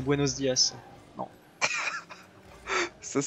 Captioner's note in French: Rires